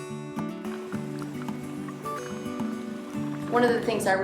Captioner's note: water bubbling